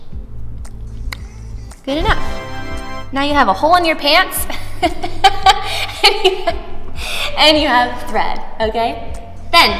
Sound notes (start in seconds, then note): 0.6 clicks tongue; 4.3 laughs